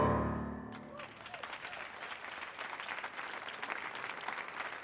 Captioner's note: audience clapping